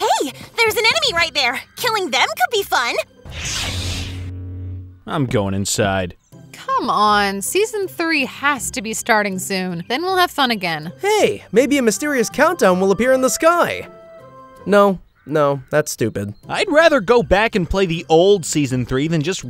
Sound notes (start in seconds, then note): 3.3 saber sword humming; 14.0 upbeat music